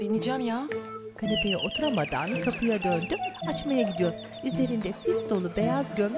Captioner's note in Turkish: Kapı zili sesi